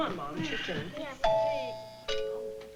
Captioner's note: doorbell ringing